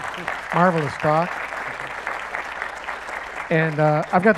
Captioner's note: applause